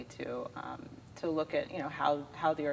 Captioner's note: none